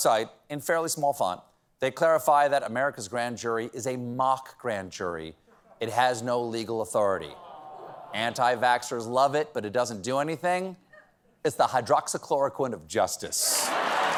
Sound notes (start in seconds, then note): 13.5 cheers and applause; 13.5 laughter